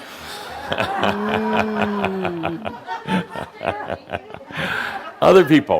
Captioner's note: laughter